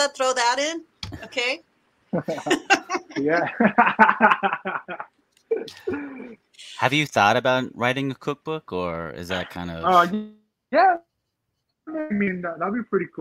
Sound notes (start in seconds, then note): 2.1 laughing